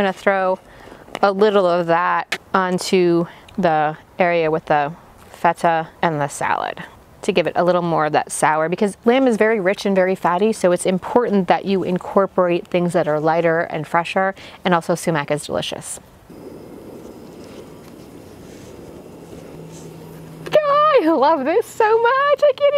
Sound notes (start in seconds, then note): 16.3 flame roaring